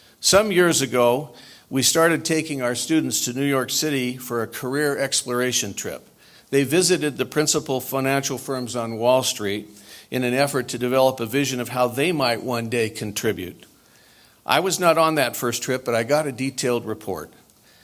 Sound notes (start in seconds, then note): none